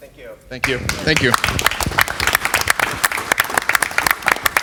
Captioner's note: applause